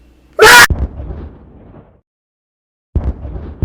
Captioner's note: bang!